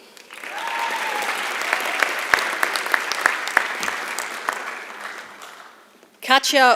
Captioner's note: applause